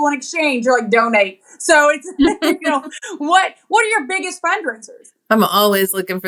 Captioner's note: laugh